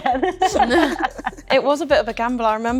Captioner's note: group laughs